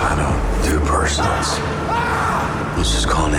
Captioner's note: screaming in background